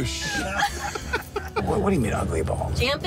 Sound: laughter

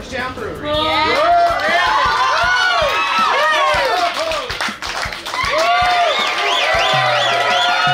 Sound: drum music; crowd cheering

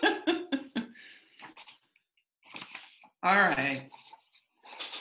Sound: laughs

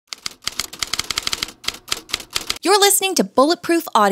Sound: typewriter keys clicking

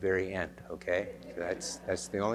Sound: laughter

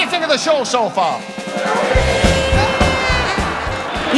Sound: applause

